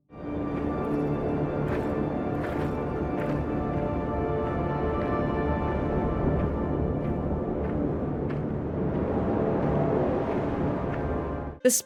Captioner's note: sounds of walking and wind